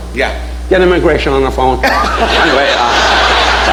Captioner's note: audience laughing